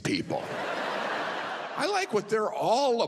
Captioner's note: audience laughs